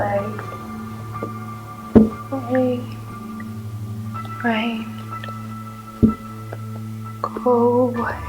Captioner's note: tapping